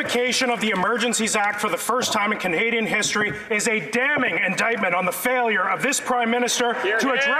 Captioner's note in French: voix de l'interprète